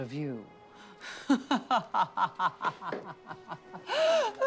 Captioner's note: laughing